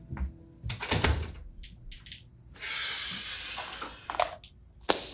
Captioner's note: door banging